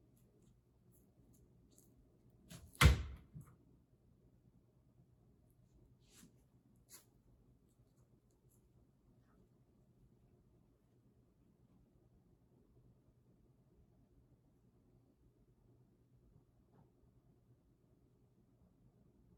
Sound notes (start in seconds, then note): 2.5 hand thuds